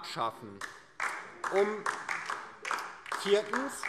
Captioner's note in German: Beifall DIE LINKE